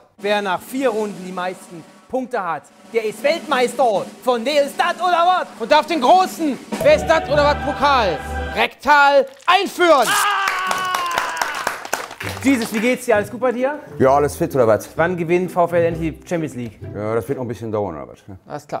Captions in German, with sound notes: Wer nach vier Runden die meisten Punkte hat, der ist Weltmeister von "Wer ist datt, oder watt?" Und darf den großen "Wer ist datt, oder watt?"-Pokal rektal einführen! (Schmerzensschreie) (Applaus) Jesus, wie geht's dir? Ja, alles fit, oder watt? Wann gewinnt VfL die Champions League? Ja, das wird noch ein bisschen dauern.